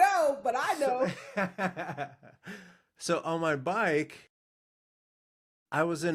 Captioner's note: laughing